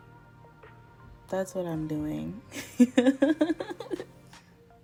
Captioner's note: laugh